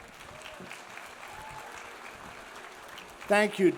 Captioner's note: audience applauds; audience cheers